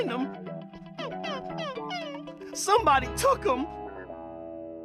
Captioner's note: none